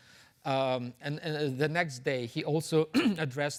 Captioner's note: clears throat